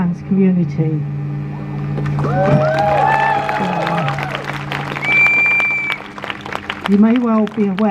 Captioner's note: crowd cheers